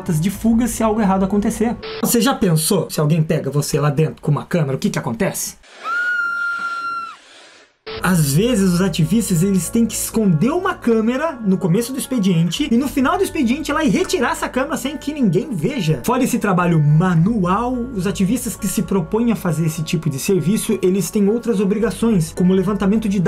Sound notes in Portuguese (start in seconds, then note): 5.7 grito de susto